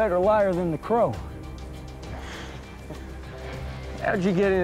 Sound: laughs

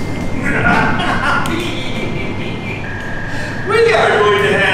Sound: laughs evilly

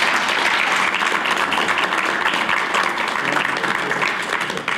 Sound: applause

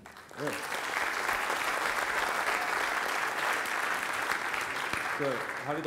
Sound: applause

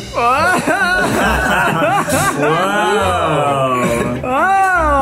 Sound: group laughing

